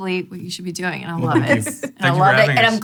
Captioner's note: laughing